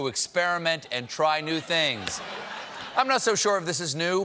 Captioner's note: laughter